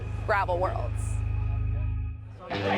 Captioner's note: people chatting